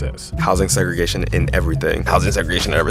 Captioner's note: soundbite of archived recording